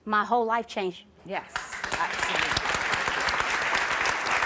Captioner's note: applause